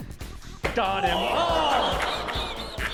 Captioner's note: all groan; cackles